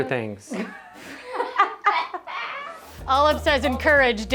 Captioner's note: laugh